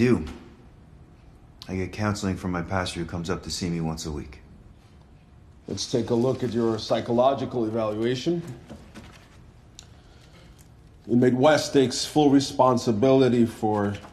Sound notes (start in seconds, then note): none